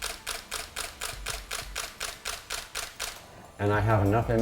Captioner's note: camera clicking